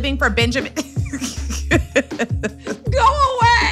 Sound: laughs

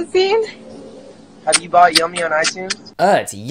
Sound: in Spanish; kissing sounds

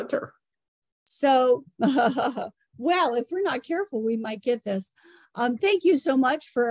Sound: chuckles

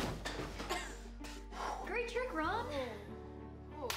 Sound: coughs

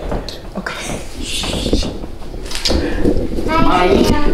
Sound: shushing

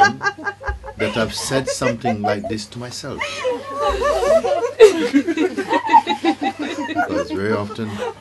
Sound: laughter

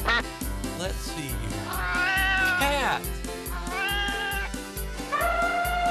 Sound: meows; trumpets

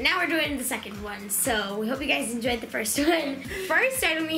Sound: laughs

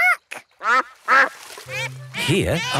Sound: quacks

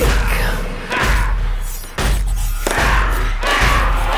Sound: knife chopping

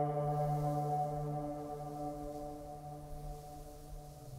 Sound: wind rustling

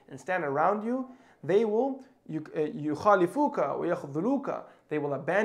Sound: speaking in Arabic

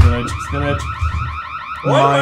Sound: alarms continue

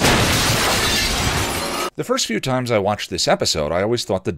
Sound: boom

